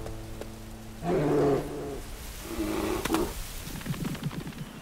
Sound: bear growling

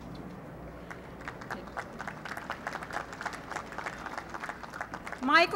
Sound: applause

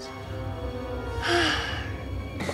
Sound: sighing

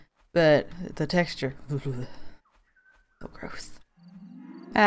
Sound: shudders

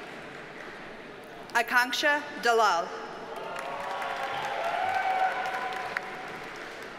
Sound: audience cheers and applauds

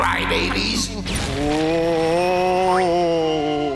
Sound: wailing

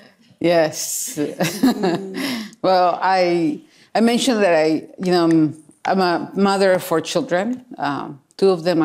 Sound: laughs

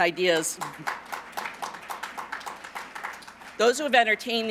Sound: applause

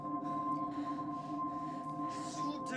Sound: light dramatic music; heavy breathing

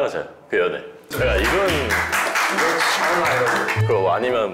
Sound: applause

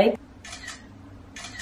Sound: camera shutter

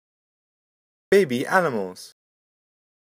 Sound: voiceover

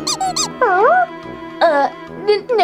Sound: comical honking; whimpering

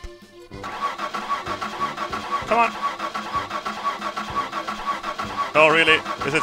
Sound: car starting

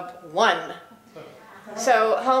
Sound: laugh

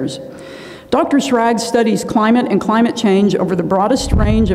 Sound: inhales

